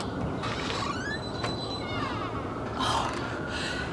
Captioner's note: door opens